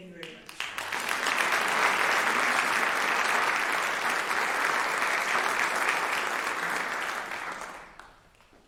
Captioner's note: applause